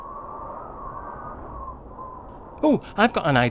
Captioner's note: wind whistling sound